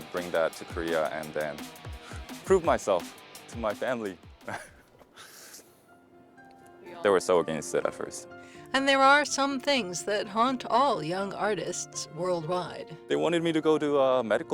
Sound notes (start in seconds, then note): 4.4 laughs